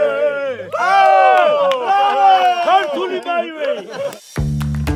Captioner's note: people speaking in a foreign language; bright upbeat music